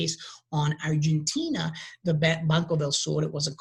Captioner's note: speaking in a foreign language